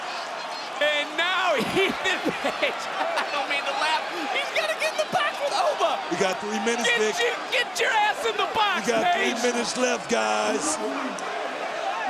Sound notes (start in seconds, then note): 0.9 crowd cheers; 3.6 Vic chuckles